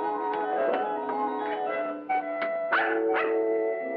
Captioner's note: dog barking